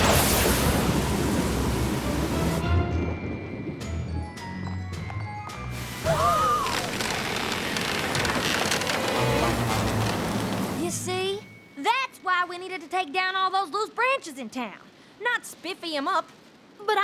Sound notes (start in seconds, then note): 0.0 thunder crashes; 5.8 creaking; 6.2 all gasp